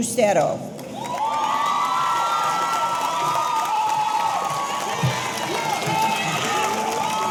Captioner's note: audience applauding; audience cheering